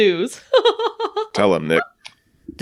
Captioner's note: inappropriate laughter